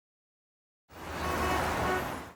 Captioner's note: car hooting